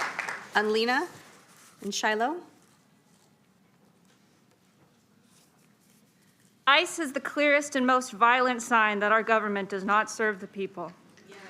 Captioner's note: applause